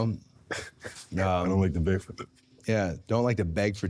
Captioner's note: laughs